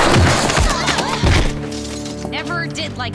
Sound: grunting

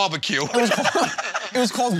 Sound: laughter

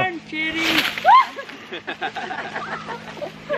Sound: screaming

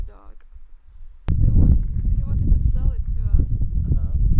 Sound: very strong wind

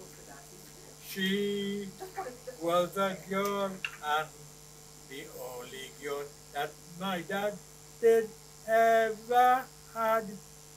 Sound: laughter

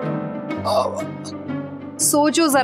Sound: stammers

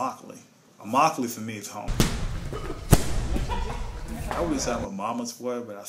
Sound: punching and training sounds

